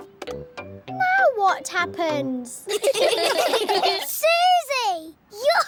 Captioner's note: all giggling